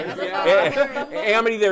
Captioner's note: laughter